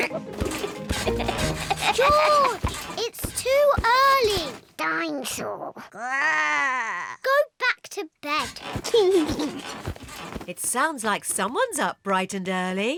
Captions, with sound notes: -(CONTINUES TO LAUGH) -George! It's too early! Dinosaur. (GROWLS) Go back to bed! (LAUGHS) It sounds like someone's up bright and early.